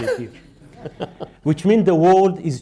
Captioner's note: laughter